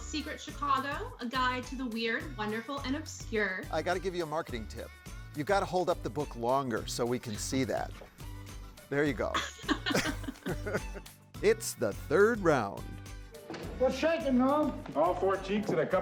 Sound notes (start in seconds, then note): 9.3 chuckles